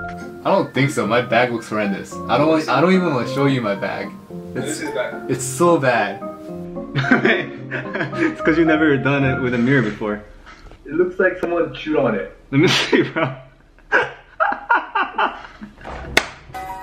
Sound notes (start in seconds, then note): 6.9 laughter